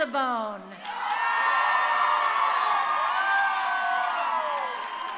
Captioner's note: crowd cheering